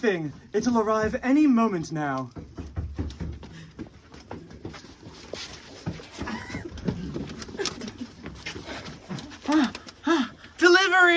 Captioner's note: A knocking from outside